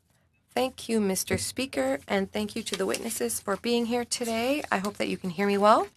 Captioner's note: speaking French